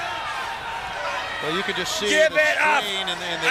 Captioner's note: crowd chatter